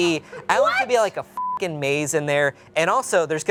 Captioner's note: beep